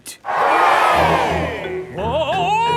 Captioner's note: crowd cheers